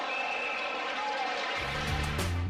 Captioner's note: crowd cheering